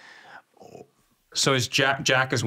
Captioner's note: sighs